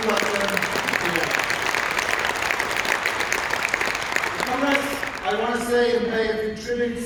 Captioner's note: applause